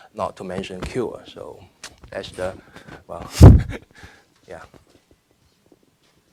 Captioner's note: laughing